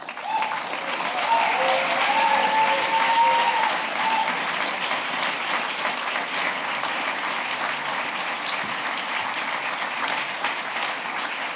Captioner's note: applause